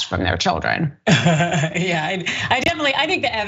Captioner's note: laugh